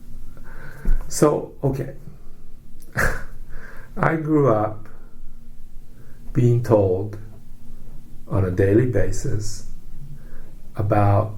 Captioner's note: laughs; scoffs